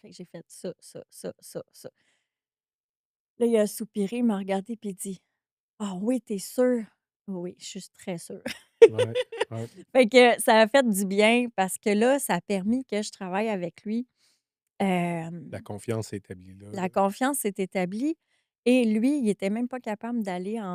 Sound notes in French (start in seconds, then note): 8.4 rires